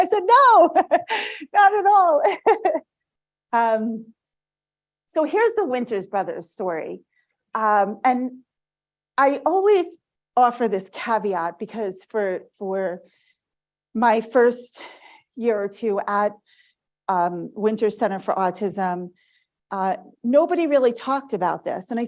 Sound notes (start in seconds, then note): 2.3 laughs